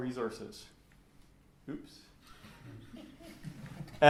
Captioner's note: laughter